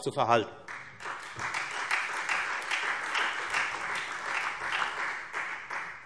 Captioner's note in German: Beifall Freie Demokraten und SPD